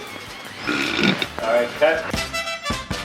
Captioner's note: loud involuntary belch